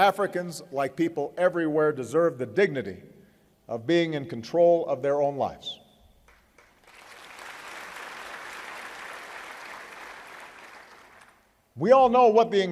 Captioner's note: applause